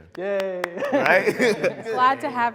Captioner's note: clapping